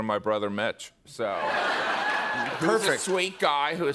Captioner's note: laughter